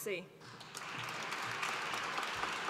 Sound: applause

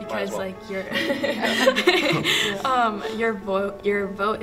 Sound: students laugh

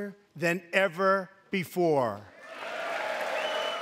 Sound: cheering and applause

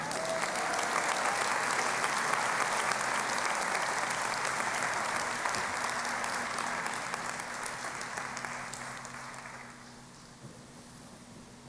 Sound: applause

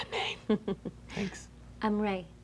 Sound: laughing

